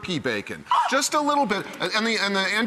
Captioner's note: squealing